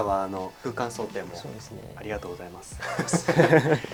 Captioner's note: laughs